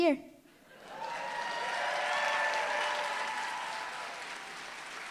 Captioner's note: applause, cheering